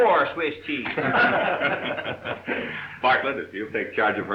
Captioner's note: group laughing